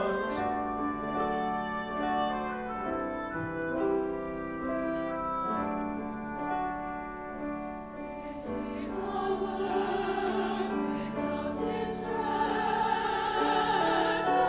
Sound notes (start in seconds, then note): 0.2 tranquil oboe and piano music; 8.2 high voices